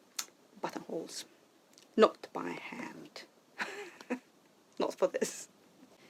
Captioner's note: laughs